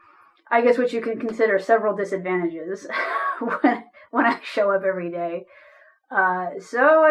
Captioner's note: chuckles